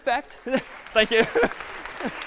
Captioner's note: applause